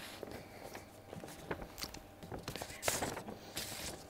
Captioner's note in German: Leises Papierrascheln